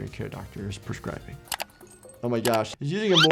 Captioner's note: mouse clicking